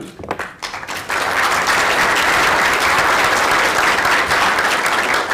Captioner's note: audience applauding